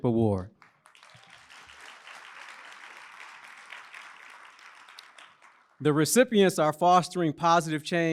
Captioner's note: applause